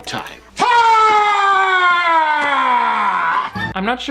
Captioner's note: villain yells